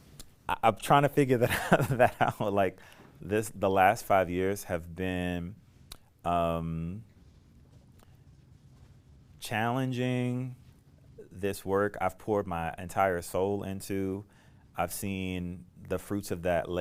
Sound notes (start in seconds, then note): 1.4 laughter